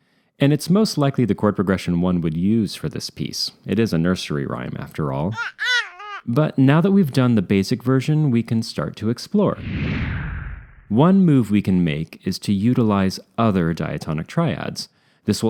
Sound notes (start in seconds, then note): 5.3 baby cooing; 9.6 rocket engine